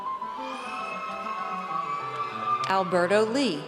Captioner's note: audience cheers